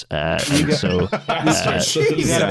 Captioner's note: laughing; laughs